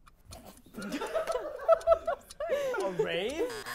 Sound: laughter

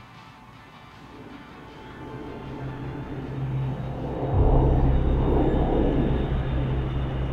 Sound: wind whooshing; airplane engine buzzing

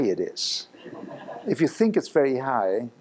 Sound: laughing

